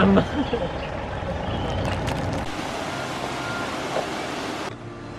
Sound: engine sound

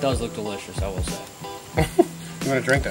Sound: laughing

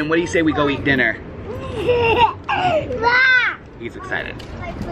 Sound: laughing

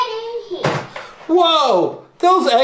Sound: door shuts

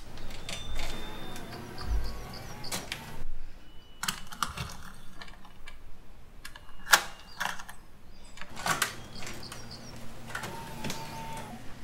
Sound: whirring of camcorder

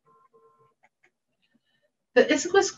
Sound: mouse clicking

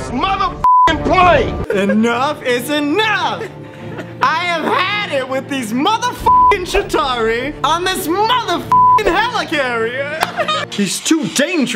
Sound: laughs

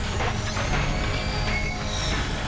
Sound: clanking

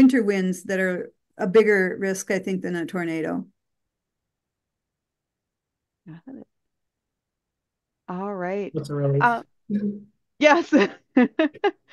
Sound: laughs

